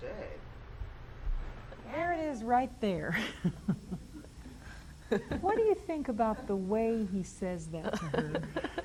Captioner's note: laughs